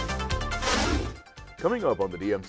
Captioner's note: whooshing